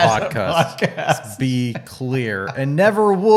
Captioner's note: laughs